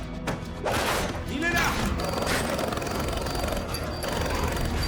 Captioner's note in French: tirs d'armes à feu